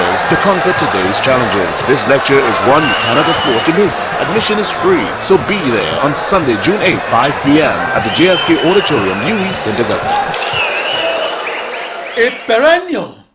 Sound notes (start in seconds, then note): 9.5 wild applause and cheering for 22 seconds